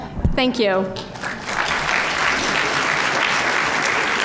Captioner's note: applause